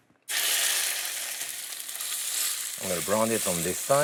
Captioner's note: sizzling